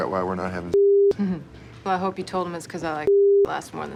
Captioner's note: chuckles